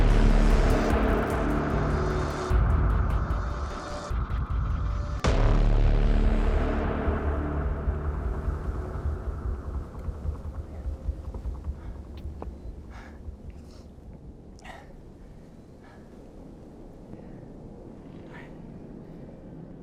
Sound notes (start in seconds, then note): 12.0 labored breathing; 12.0 wind blowing